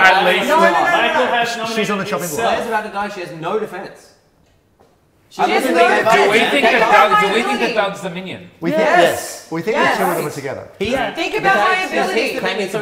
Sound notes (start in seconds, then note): 5.2 loud kerfuffle